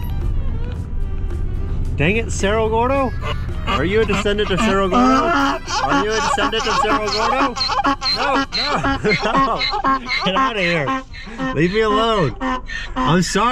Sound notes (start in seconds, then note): 0.2 lively rhythm music; 5.6 horse squeals excitedly; 9.2 laughs